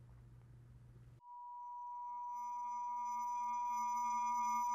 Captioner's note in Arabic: رنين عالي